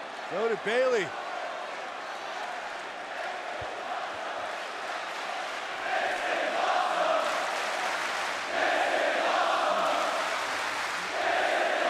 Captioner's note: crowd cheering